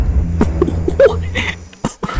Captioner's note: laughs to myself